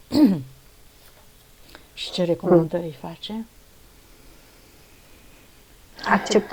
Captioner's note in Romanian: voce dreasă